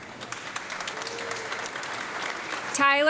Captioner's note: audience clapping